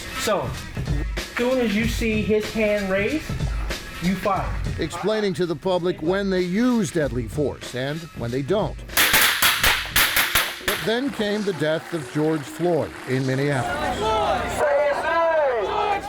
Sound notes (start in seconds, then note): 9.0 gun blasts; 13.8 crowd